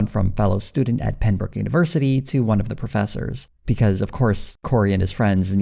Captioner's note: none